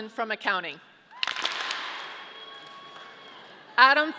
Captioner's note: audience clapping